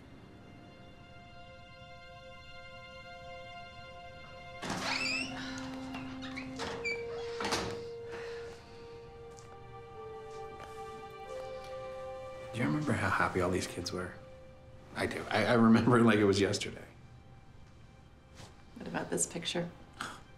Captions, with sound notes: (gentle music) (door creaks) - Do you remember how happy all these kids were? I remember like it was yesterday. - What about this picture?